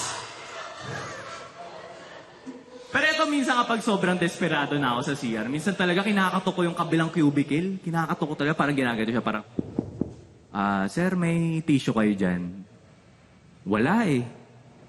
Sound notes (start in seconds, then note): 0.1 laughter; 9.5 knocking